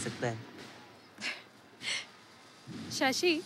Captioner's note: Chuckles